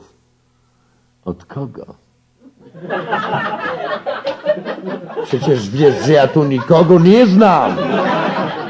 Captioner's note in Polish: śmiech